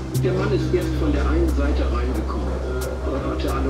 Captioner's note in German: sprechen Türkisch